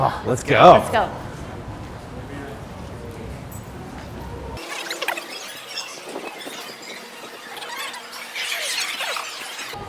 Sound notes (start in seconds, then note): 4.6 tape squeaks as it fast forwards